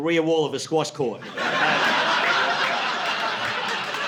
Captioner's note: laughter